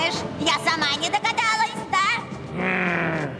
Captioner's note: growls